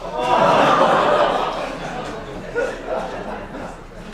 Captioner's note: laughing and ohhs